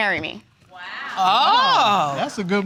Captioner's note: audience exclaiming